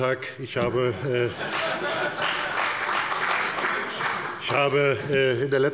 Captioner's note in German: Beifall bei Abgeordneten der FDP, der CDU und des BÜNDNISSES 90/DIE GRÜNEN